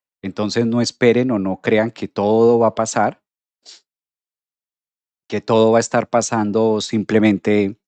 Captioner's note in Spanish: resoplido